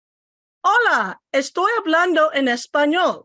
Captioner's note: speaking spanish